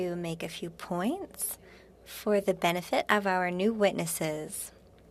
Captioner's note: speaking French